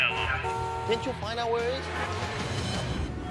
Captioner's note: car horn honks